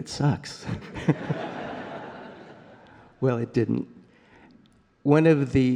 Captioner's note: laughter